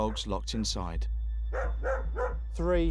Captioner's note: dogs barking